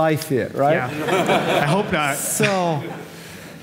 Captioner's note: audience laughing